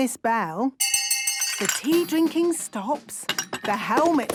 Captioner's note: hand bell ringing; tea cups clinking